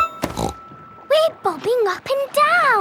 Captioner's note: snorts